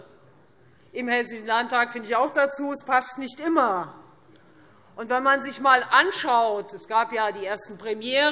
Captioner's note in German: none